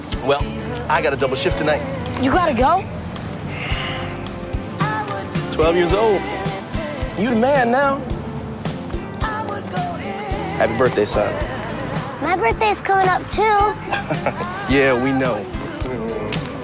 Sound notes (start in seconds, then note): 13.8 laughs